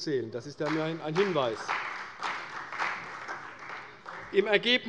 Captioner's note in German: Beifall bei der CDU